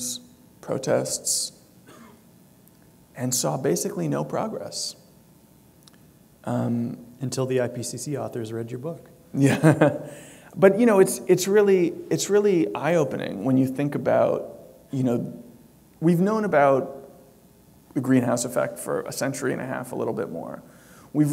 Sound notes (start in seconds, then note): 9.5 chuckle